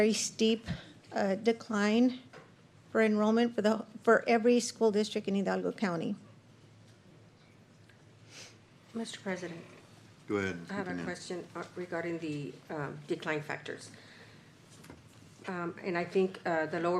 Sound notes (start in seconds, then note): 8.3 snorts